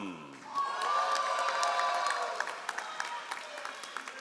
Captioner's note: all applauding